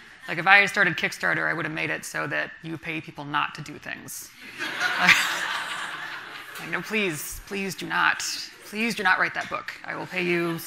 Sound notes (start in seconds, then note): 4.5 everyone laughing